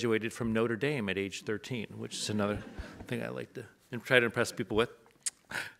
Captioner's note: audience laughs